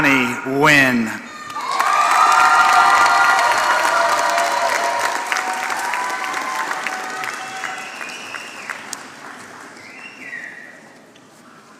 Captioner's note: applause